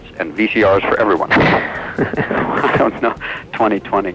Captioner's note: laughs